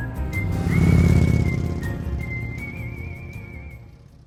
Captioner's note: lively music; motorbike roaring